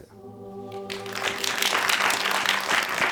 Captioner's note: applause